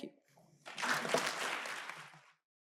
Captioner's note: applause